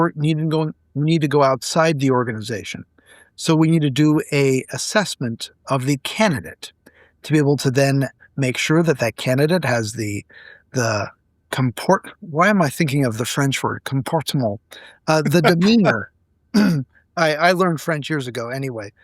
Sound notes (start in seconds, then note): 15.1 laughing